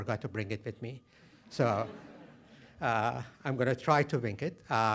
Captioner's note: laughter